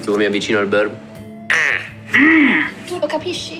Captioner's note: squawks